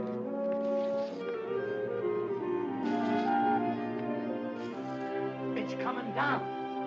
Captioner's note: cash rustling